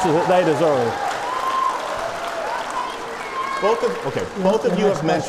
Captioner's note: applause